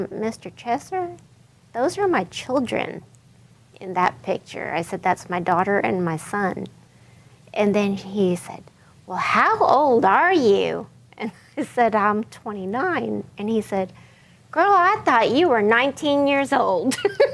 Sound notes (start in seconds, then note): 11.2 chuckles